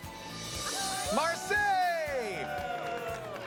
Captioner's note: cheering